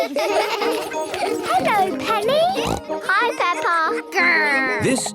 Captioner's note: laughter; snorting